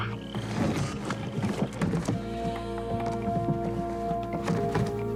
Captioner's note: metal clanking; suspenseful music